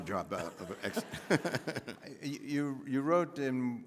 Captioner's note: laughing